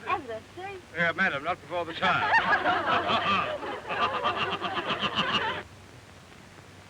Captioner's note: laughing